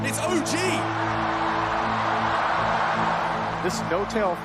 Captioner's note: crowd cheering